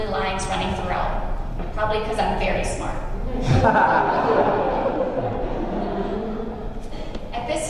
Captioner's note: laughter